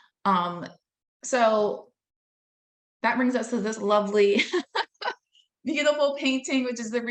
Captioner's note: laughing